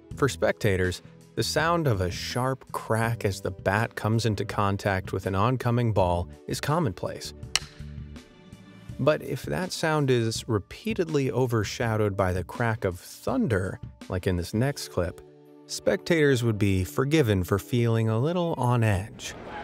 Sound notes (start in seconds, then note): 7.5 bat cracking